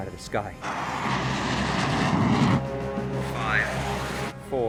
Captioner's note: aircraft whirring